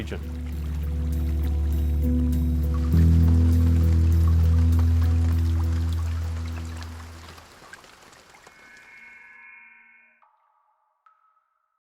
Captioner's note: stream flowing, rain drops, music